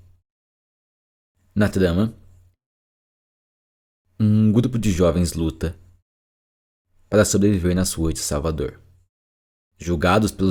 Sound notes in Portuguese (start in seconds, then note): none